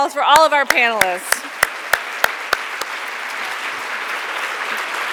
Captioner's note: audience clapping